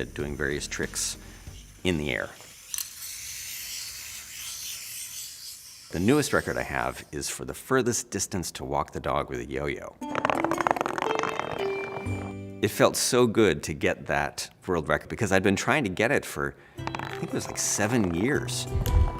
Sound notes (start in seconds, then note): 2.3 revolving swiftly; 10.0 yo-yo thumps on floor